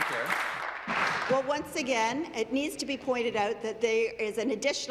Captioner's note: applause